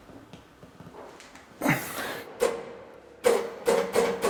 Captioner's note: groans